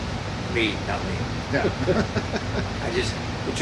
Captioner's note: laughs